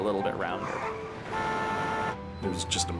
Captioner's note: horn beeps